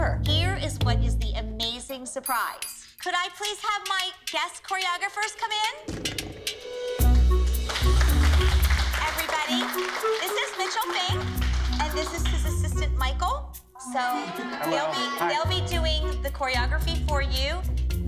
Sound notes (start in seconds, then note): 7.5 applause